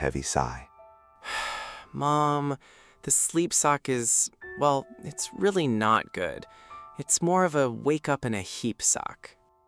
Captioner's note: sighs dramatically, slumping onto the couch